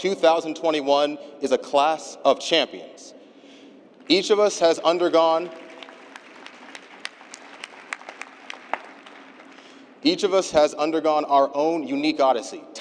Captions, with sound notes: OF 2021 IS A CLASS OF CHAMPIONS. EACH OF US HAS UNDERGONE [APPLAUSE] EACH OF US HAS UNDERGONE OUR OWN UNIQUE ODYSSEY,